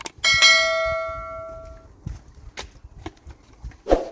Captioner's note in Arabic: جرس